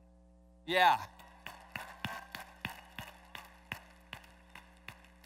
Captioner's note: applause